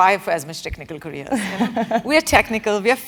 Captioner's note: laugh